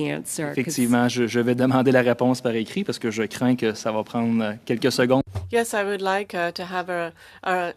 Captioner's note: speaking French